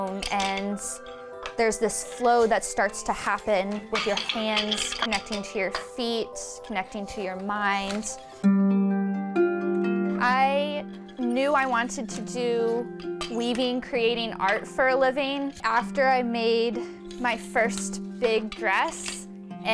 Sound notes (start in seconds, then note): 2.9 loom squeaks; 3.8 loom rattles; 7.8 loom squeaks; 8.5 calm string music